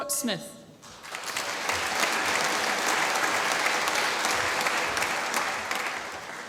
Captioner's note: applause